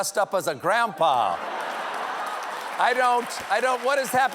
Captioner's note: applause